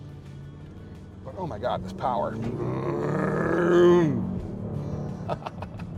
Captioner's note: mimics engine revving; laughing